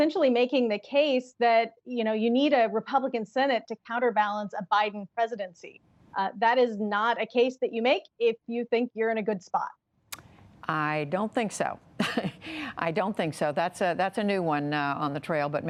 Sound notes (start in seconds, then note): 12.0 laughter